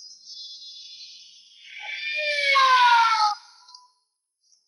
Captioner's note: police siren blares